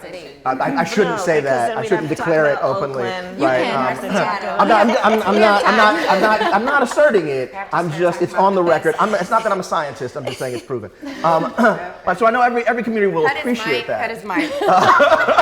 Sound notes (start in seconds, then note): 3.6 all chattering and laughing; 12.2 clears throat; 14.3 all laughing